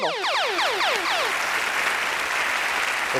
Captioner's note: applause